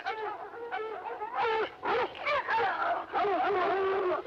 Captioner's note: dogs barking